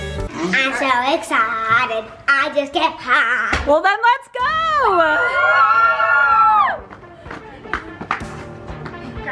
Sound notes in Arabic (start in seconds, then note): 5.1 الجميع يصرخون; 7.5 موسيقى مبهجة